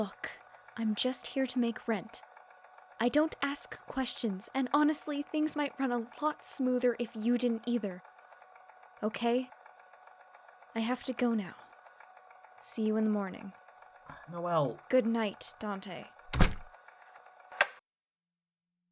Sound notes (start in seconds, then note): 16.2 door shuts